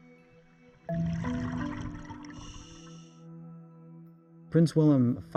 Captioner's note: playful music; underwater bubbling noise